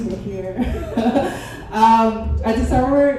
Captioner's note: chuckles